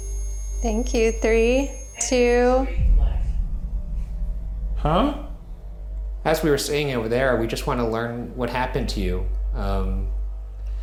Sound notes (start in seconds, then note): 1.9 automated Voice